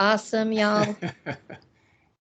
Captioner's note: laughing